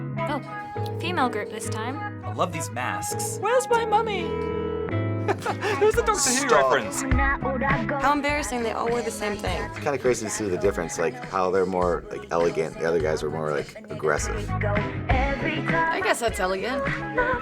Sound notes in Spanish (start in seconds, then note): 0.0 teléfono sonando; 5.2 risas